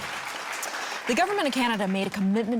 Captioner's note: audience clapping